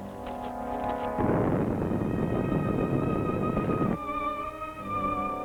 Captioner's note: tense music; volcano rumbling; tense music